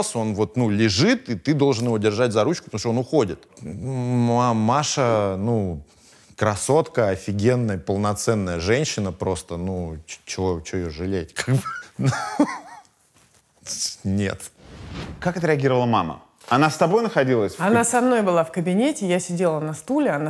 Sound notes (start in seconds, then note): 13.2 laughs